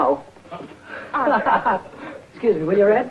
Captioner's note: Billy laughing